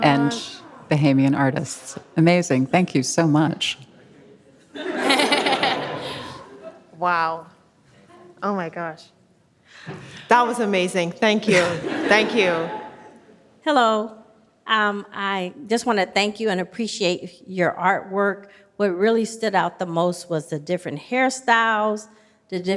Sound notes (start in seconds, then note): 4.7 audience laughs